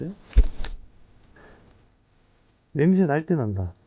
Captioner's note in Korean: 다시 반응하는 전자기장